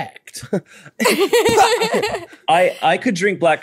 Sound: laughs

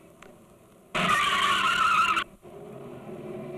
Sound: brakes squeal

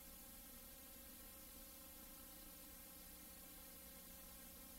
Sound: TV static

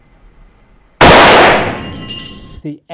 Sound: explosion sound

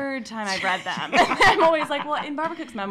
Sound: laughing

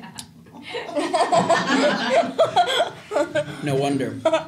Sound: laughing

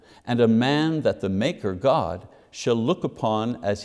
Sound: none

